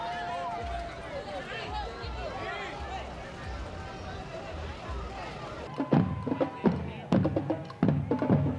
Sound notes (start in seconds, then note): 3.1 people chattering